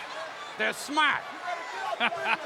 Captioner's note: chuckling